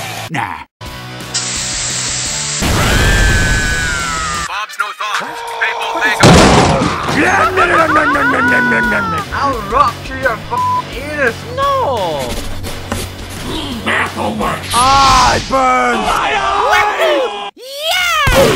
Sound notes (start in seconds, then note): 2.8 some idiot screaming; 12.2 scribbling